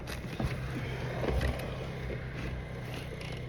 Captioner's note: ATVs driving in the distance